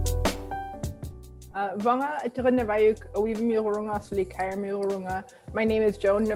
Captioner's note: non-english speech